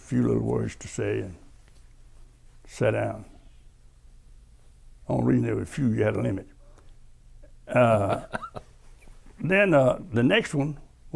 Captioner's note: laughter